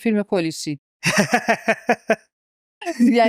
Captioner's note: laughs